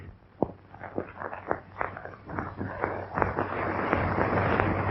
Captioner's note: fire crackling